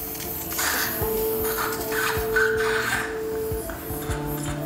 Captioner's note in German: Sauggeräusche, Vitalgeräusche, ruhige Musik